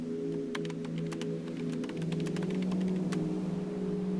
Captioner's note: keyboard clicks